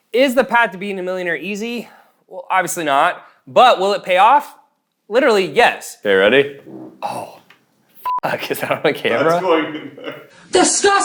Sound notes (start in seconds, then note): 8.0 beep; 9.2 laughing